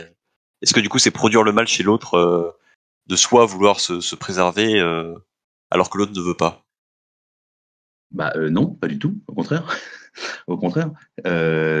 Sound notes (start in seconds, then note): 9.6 faint chuckle